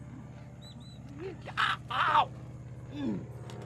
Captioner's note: grunts; airplane engine buzzes